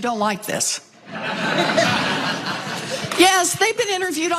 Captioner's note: laugh